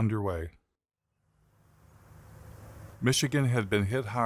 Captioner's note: wind blowing